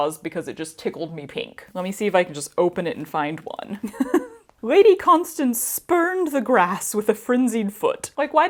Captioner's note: chuckle